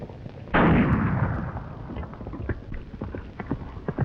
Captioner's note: gunshot banging